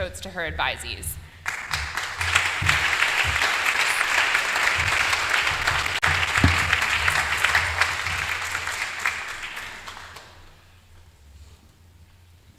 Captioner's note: applause